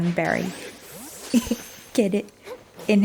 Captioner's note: laughs